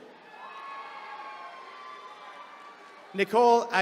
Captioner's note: attendees cheering